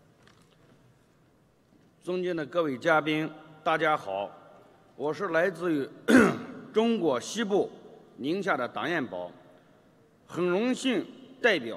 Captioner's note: speaking foreign language